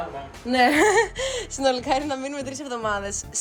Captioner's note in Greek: γέλια